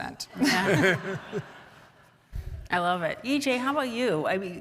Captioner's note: all chuckle